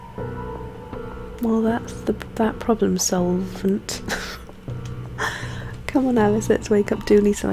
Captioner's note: laughs